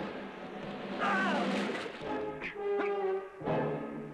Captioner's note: yelling